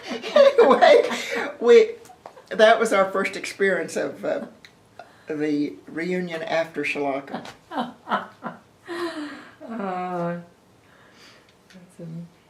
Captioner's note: laughter